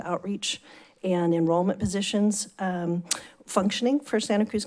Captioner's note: smacks lips